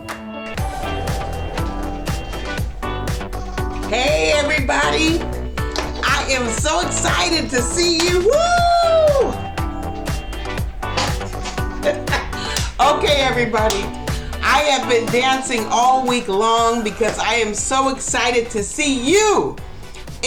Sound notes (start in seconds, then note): 7.9 hoots; 12.5 laughs